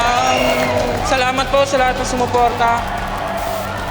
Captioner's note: in Tagalog